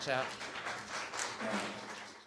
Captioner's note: applause